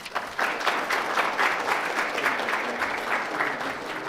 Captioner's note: applause